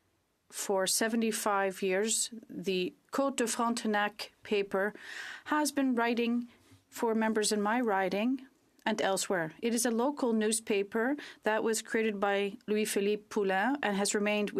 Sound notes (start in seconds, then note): 1.4 speaking French